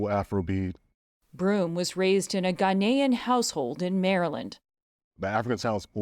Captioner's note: voice-over